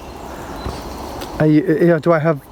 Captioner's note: birds chirping